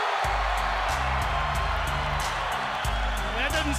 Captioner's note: crowd cheering